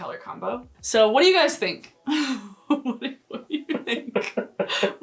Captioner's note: laughs